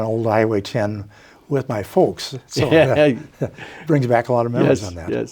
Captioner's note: laughs